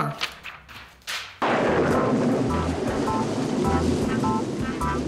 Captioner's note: thunder crashes